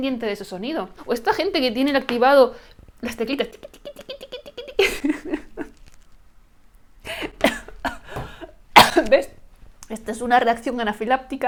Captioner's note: coughs